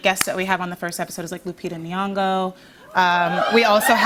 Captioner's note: cheers